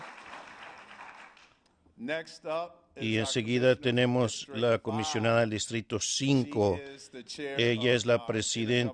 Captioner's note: applause